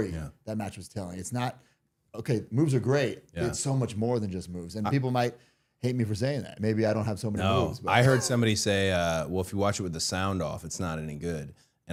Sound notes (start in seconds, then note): 7.5 laughing